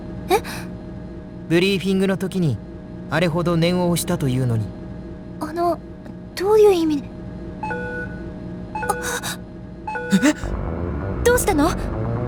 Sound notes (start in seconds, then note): 9.3 gasp